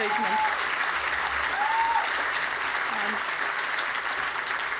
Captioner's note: cheering, applause